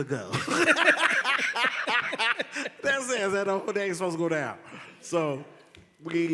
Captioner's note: laughed